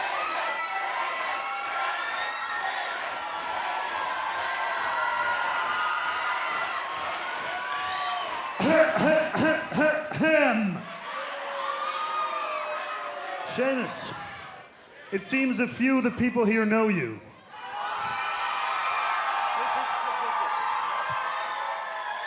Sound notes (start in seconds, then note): 0.1 fans chanting; 8.6 clearing throat; 17.4 cheers and applause